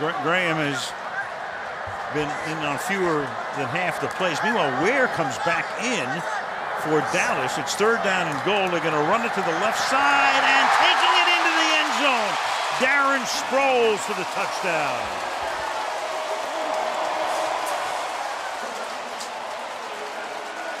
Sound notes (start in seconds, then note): 15.3 cheering; 16.7 pa announcement